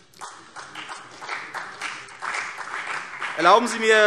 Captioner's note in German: Beifall CDU und vereinzelt BÜNDNIS 90/DIE GRÜNEN